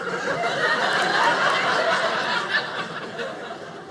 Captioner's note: audience laughing